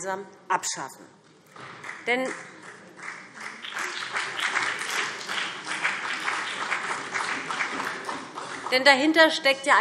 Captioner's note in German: Beifall BÜNDNIS 90/DIE GRÜNEN und vereinzelt CDU